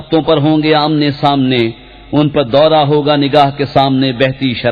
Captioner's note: intelligently